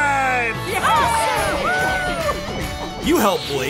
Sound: cheering

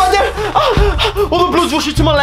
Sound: moan

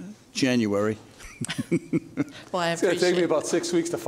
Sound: judge laughing

